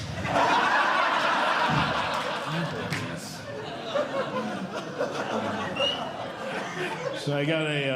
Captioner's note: audience Laughing